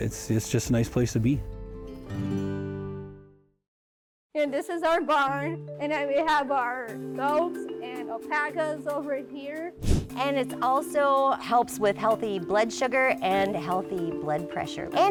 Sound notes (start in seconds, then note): 4.4 gentle music; 9.8 air whoosh